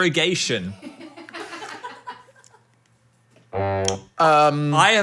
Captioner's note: people laughing